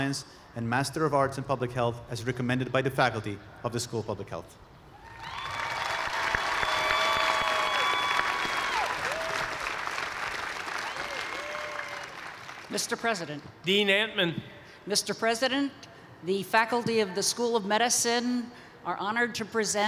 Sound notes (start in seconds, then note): 5.0 cheers and applause